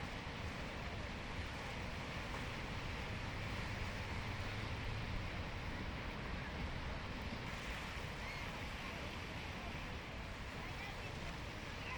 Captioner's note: water flowing